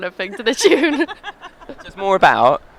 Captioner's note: laughter